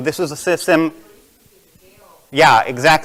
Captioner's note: murmurs